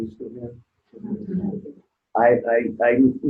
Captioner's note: audience murmuring